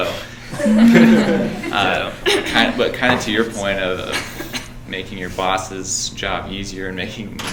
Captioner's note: laughing